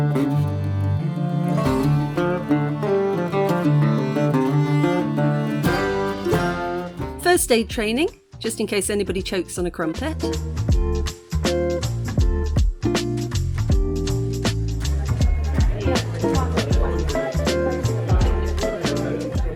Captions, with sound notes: First aid training, just in case anybody chokes on a crumpet. [upbeat music] [background chatter]